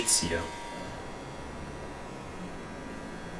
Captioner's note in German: Leises Surren